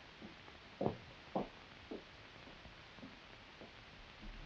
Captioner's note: footsteps tapping